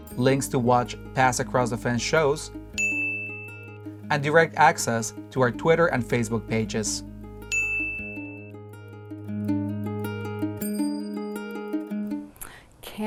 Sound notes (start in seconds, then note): 2.8 dinging; 7.5 dinging; 10.4 upbeat music